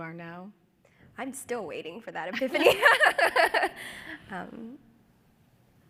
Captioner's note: laughs